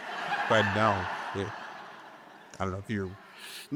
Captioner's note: audience laughing